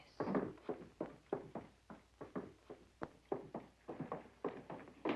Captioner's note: footsteps tapping